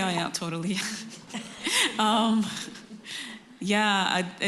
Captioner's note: laughter